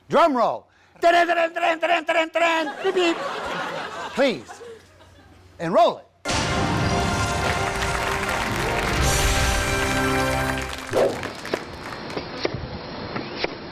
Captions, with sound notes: Drum roll. Dun-dun, dun-dun, dun-dun, dun-dun, dun-dun, beep-beep! (audience laughs) Please, and roll it. (audience applauds) (upbeat music)